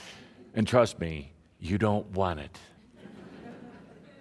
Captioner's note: laughter